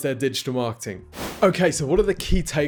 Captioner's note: whoosh